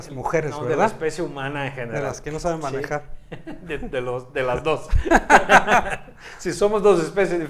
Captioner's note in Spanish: risa